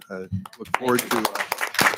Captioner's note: members applauding